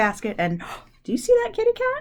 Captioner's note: gasps